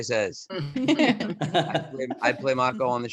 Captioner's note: laughing